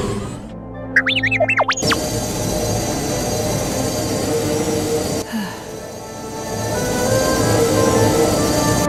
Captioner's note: sigh